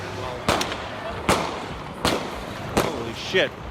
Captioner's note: guns firing